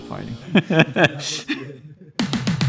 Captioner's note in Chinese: 大笑